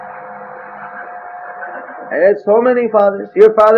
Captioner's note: devotees laughing